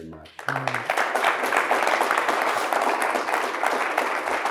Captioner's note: audience applauds